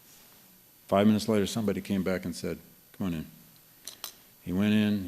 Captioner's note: none